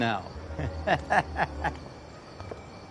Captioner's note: laughs